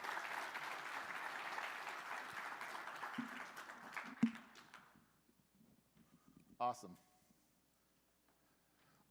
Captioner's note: applause